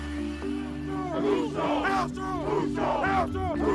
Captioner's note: upbeat music; team chants